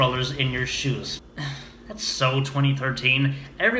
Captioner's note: scoffs